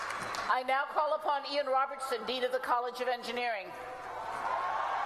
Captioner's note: applause